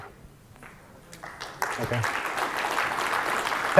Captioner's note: applause